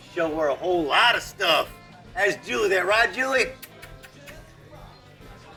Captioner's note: kisses